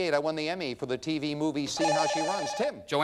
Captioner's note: bell rings